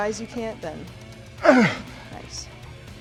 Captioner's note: Sheamus groans